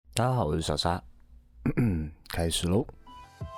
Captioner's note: cough